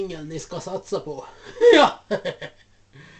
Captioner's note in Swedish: skratt